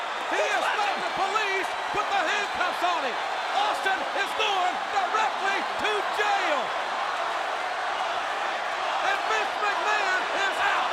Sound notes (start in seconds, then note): 6.5 crowd cheering